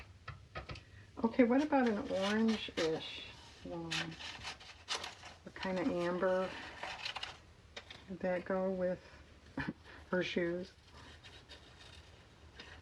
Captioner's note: laughs